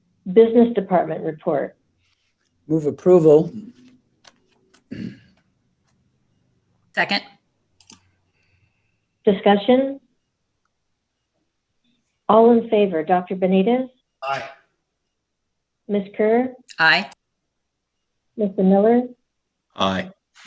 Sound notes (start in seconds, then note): 4.8 clears throat